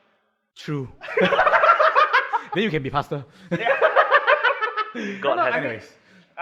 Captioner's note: laughs